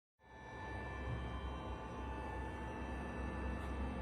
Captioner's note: respirator buzzing